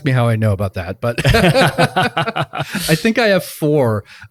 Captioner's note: group laughs